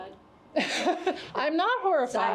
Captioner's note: laughs